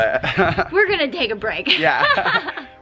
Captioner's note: laughs